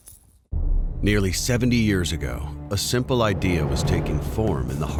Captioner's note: voiceover